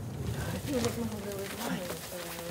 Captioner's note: quiet voices